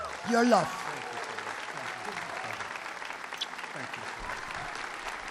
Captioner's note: applause